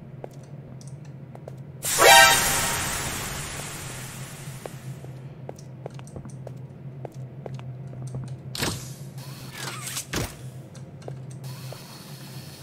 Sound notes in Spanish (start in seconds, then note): 1.8 Vapor a presión